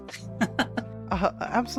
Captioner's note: laughs